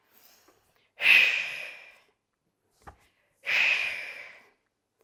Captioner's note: breathing sharply